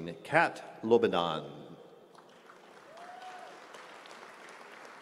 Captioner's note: applause